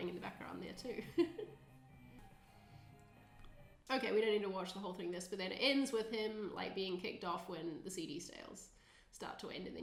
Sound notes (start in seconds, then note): 0.9 chuckling; 3.1 upbeat music